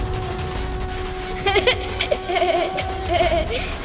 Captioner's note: laughs